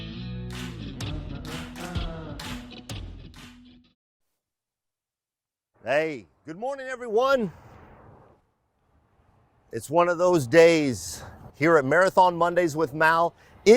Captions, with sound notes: (man vocalizing) - Hey, good morning everyone. It's one of those days here at "Marathon Mondays with Mal".